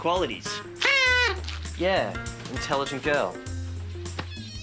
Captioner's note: party blower hoots